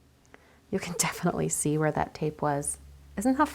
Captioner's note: laughs